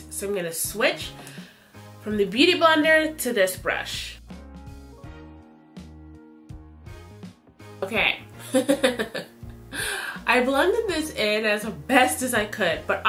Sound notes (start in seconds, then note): 4.5 gentle music; 8.5 chuckles